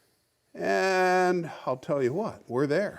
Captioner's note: none